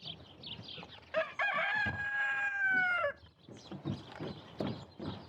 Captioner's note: rooster caw